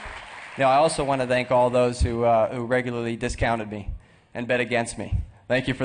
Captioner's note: applause